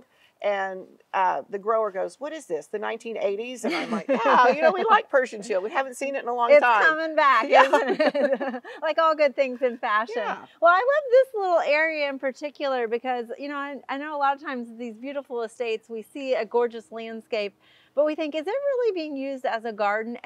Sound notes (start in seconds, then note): 3.6 laughing; 7.5 chuckling